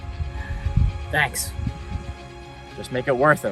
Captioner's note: sigh